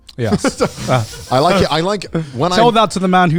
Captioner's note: all chuckling